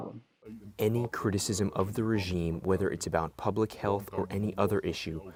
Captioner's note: through translator